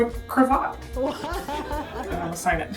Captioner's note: laughter